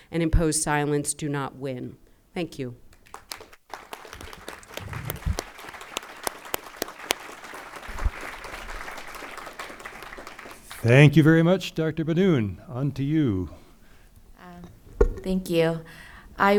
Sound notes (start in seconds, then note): 3.0 crowd applauding